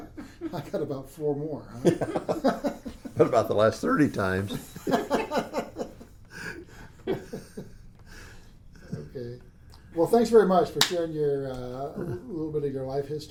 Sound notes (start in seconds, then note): 1.8 laughs